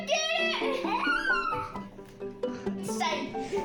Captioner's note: squealing